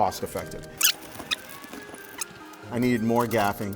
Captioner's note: fast forward squeaky sounds